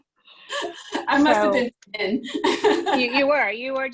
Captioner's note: laughs